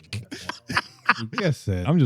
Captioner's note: laughing